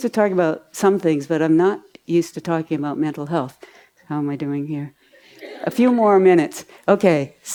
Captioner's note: audience laughs